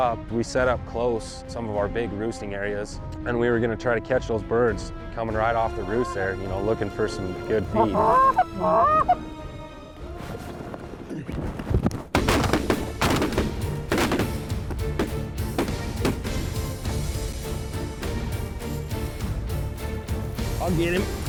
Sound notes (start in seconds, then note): 7.6 goose calls; 12.1 gun shots